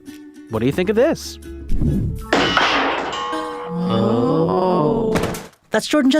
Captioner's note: crashing sound; several people groan